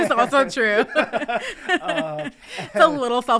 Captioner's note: both laughing